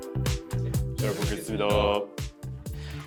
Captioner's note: in Korean